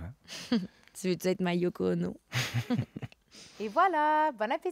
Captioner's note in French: rires